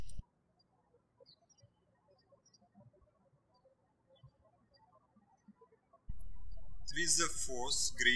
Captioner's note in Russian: птички щебечут